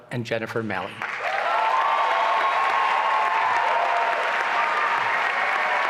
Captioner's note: applause and cheering